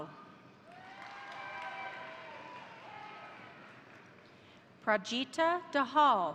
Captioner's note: crowd cheering; crowd applauding